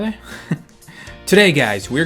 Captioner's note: chuckle